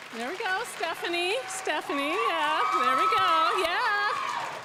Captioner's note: applause; graduates cheering; applause